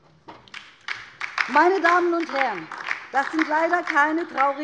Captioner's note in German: Beifall DIE LINKE